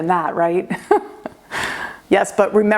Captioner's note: laughs